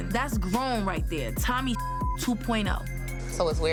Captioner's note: beep